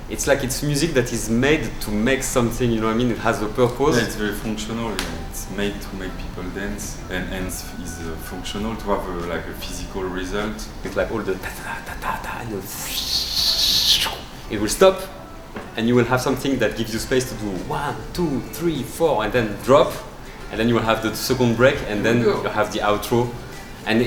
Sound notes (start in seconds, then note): 12.2 imitates whistling noise